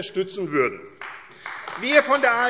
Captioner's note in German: Beifall AfD